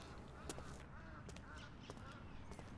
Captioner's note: bird cawing